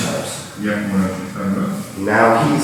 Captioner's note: speaking in a foreign language